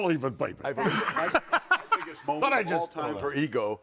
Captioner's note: audience laughing